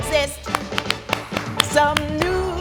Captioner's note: clapping